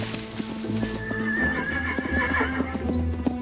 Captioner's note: horse whinnying